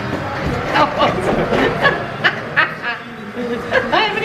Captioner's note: laughing